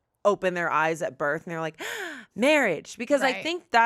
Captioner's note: gasps